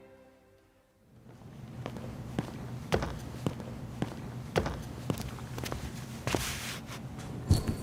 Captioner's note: footsteps; yo-yo swiveling